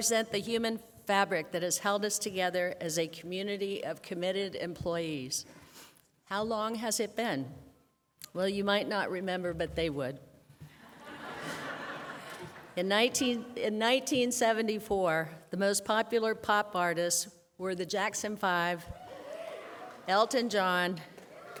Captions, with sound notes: for the last four decades. They represent the human fabric that has held us together as a community of committed employees. How long has it been? Well you might not remember but they would. [ Laughter ] In 1974 the most popular pop